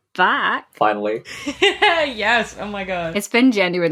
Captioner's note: laughs